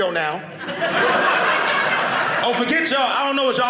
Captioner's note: audience laughing